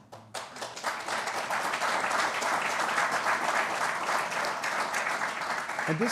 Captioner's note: applause